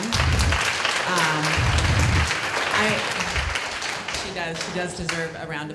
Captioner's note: applause